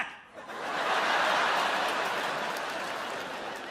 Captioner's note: laughter